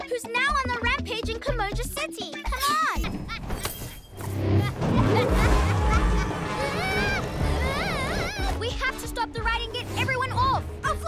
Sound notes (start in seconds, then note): 4.4 evil laughter; 5.4 screaming